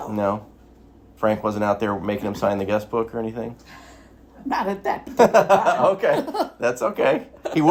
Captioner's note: laughs